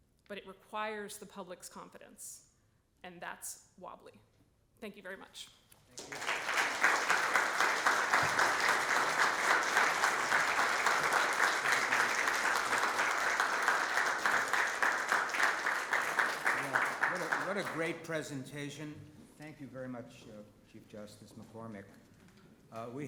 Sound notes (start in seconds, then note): 6.2 audience clapping